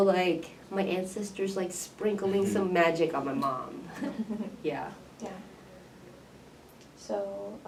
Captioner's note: laughs